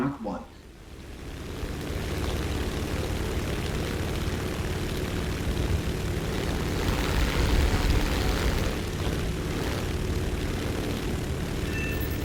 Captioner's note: aircraft Engines ,Gunfire, Flying Sounds